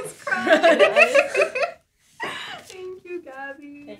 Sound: laughter

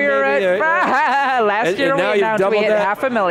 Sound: laughing

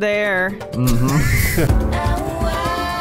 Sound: beautiful music plays; laughter

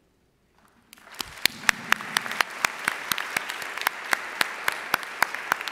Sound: audience applauding

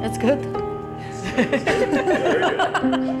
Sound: laughing

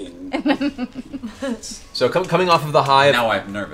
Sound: laughs

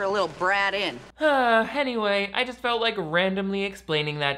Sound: sighs

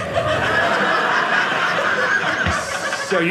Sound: audience laughing

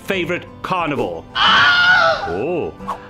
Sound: horror scream

